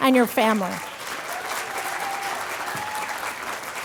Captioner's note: applause